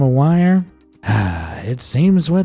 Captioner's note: sigh